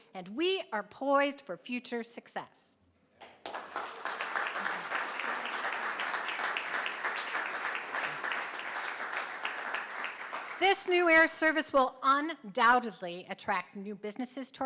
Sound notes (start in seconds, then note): 3.2 crowd clapping